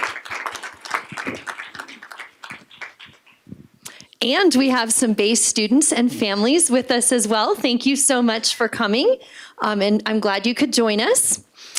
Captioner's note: applause